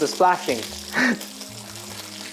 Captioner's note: laughs